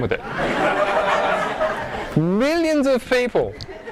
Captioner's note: audience laughing